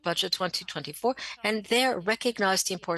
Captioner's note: speaking French